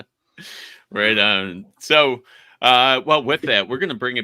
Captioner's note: chuckling